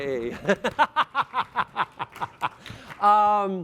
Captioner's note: applause